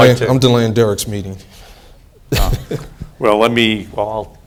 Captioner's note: laughs